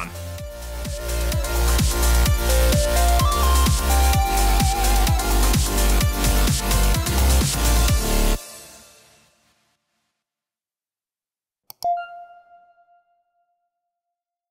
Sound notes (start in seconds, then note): 0.0 upbeat electro music; 11.7 computer mouse click; 11.8 chime